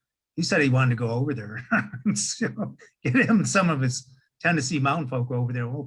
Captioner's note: laughing